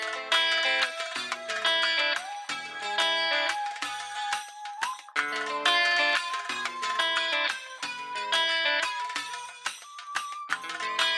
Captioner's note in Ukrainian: оплески